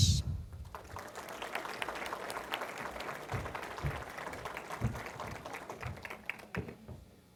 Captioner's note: applause